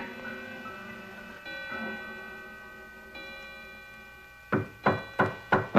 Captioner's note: knocking on door; clock ringing